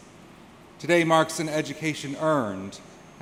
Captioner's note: none